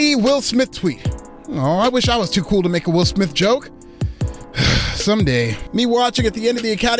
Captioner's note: sigh